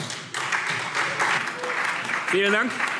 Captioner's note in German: Beifall SPD